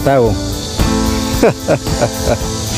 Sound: cynical laughing

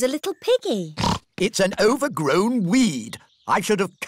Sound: snorts

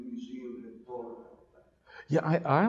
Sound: audience member talking in the background

